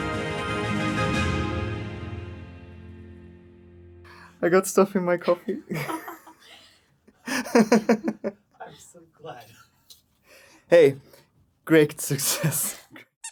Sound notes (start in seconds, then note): 5.2 laughter in the background; 7.3 laughter